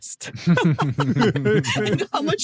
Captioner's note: all laughing